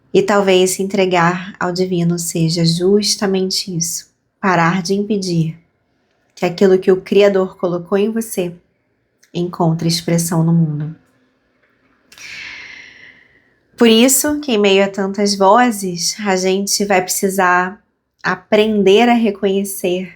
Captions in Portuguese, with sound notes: E talvez se entregar ao divino seja justamente isso, parar de impedir que aquilo que o criador colocou em você encontre expressão no mundo. [suspirando] Por isso que em meio a tantas vozes, a gente vai precisar aprender a reconhecer